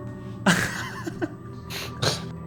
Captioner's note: laughs